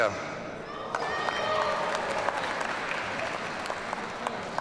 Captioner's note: audience cheering